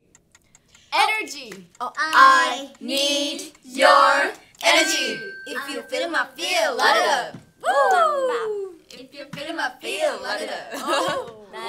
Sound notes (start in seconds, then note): 0.3 timer clicking; 4.6 bell rings